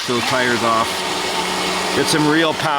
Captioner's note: engine roaring